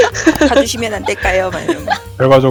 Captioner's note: laugh